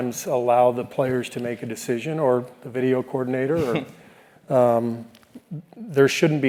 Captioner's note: laugh